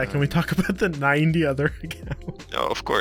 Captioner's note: laughs